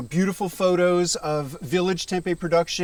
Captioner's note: none